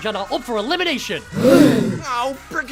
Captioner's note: gasp